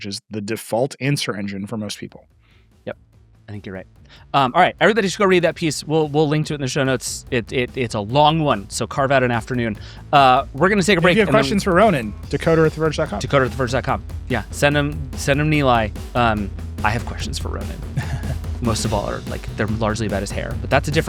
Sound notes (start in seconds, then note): 17.8 upbeat music; 17.8 chuckles